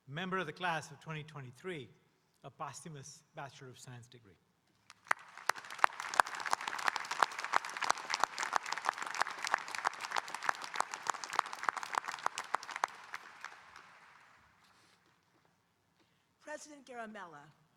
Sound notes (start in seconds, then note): 5.1 audience applauding